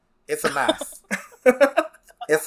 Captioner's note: laughs